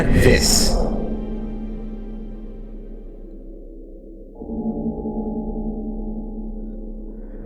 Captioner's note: The cloister bell sounds in the distance, fading to silence